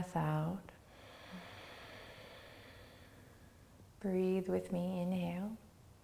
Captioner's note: inhales deeply; exhales